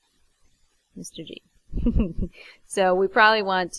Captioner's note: laughs